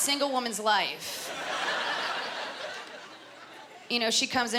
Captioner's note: laughter